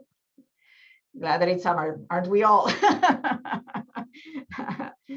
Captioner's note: laughs